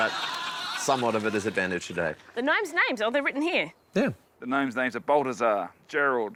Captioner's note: cheering, applause